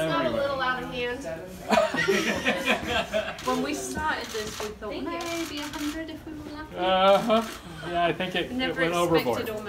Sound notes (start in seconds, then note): 1.6 laughter